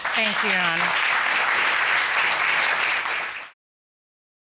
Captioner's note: applause